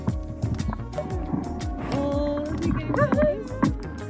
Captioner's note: whine